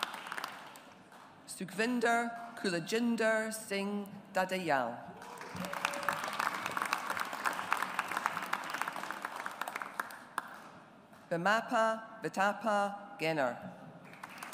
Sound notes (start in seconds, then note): 5.2 audience applauds; 14.1 audience applauds